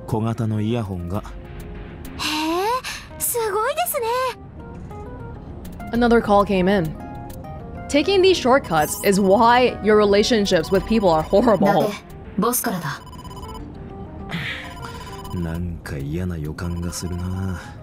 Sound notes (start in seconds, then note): 11.3 chuckles